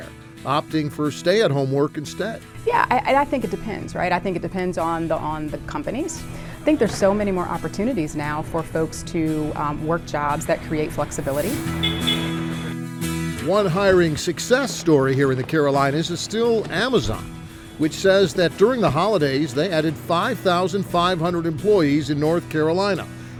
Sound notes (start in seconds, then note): 11.6 vehicle horn honking